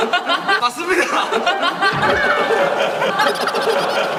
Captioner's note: Tertawa